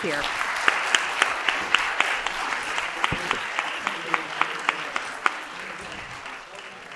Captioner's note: applause